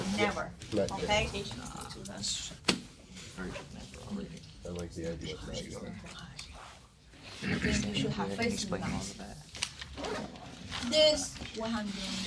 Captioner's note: murmur